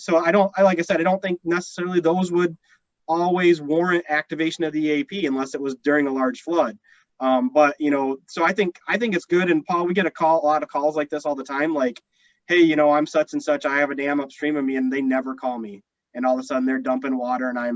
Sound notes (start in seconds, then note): none